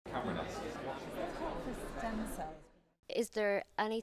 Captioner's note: background chatter